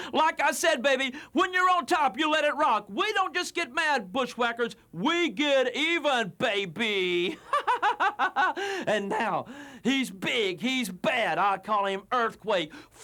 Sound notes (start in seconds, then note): 7.2 laugh